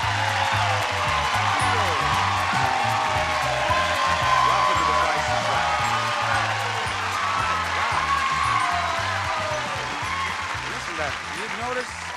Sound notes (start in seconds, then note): 7.8 audience cheers